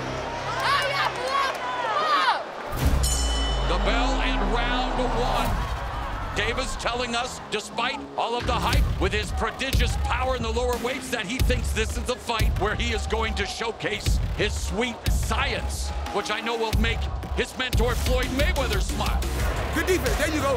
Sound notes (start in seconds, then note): 2.9 bell dings